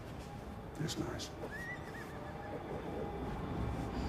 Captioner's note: horse neighs